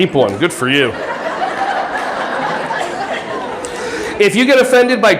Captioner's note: audience laughing